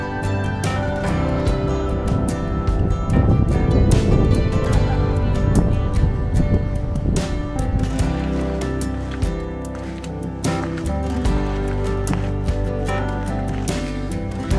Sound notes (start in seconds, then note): 3.1 gentle inspirational music; 3.1 wind whooshing; 8.7 footsteps rustling